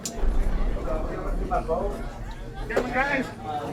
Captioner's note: bar chattering